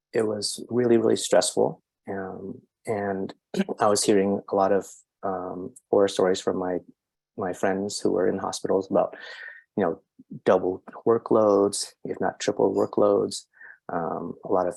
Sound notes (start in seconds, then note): 3.6 coughs